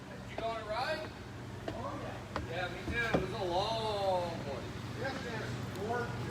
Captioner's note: shop-floor workers loudly converse